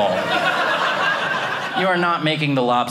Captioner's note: audience laughing